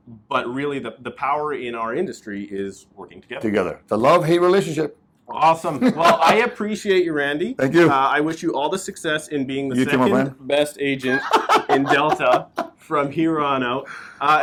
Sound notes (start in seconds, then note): 5.6 laughs; 11.0 laughs